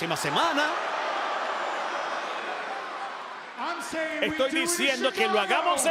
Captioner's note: applause